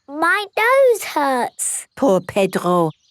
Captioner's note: nasal voice